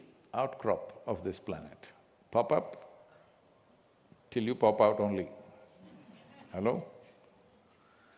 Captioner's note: few laugh